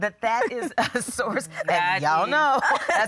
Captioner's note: laughing